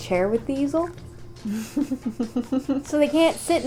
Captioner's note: laughter